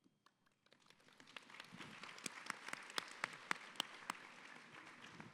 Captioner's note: audience applauds